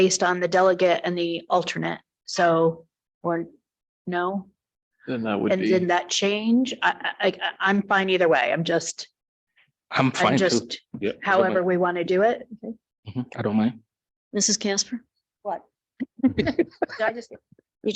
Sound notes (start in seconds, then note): 16.1 people chuckle